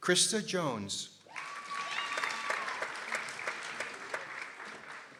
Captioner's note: people applauding